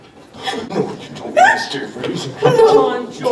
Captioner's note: Lorraine whimpers and struggles against Biff